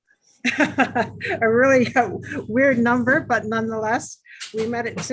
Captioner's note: laughs